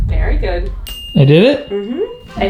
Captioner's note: pings